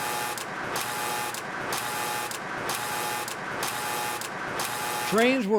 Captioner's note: mechanical buzzing